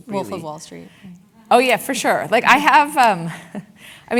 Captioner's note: laugh